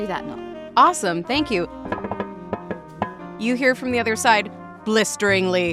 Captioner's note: knocking